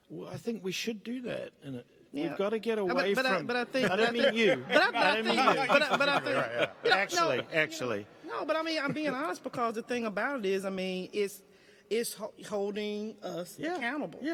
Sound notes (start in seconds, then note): 3.7 audience laughing; 4.9 stammering